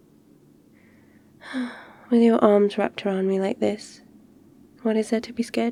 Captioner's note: sighs